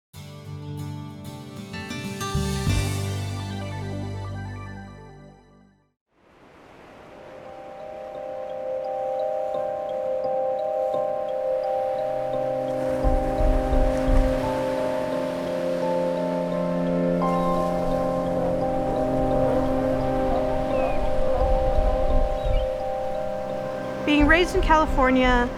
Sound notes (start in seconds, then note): 12.8 waves crashing; 16.9 seals barking, seagulls screeching